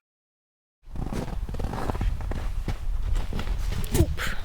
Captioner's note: crunching footsteps in the snow